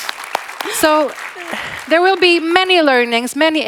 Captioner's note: audience applauding